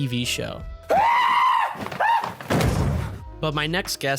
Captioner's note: Pattinson screams